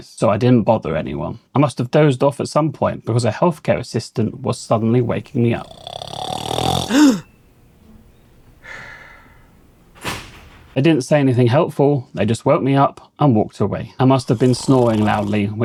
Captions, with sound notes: so I didn't bother anyone. I must have dozed off at some point because a healthcare assistant was suddenly waking me up. [Snoring] They didn't say anything helpful. They just woke me up and walked away. I must have been snoring loudly,